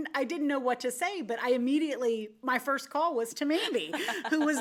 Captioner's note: laughs